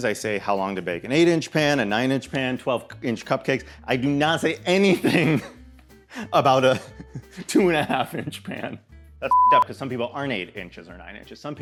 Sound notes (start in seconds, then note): 9.3 beep